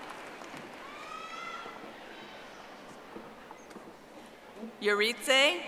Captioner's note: audience applauding